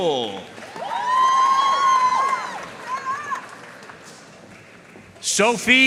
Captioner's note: audience cheering and applauding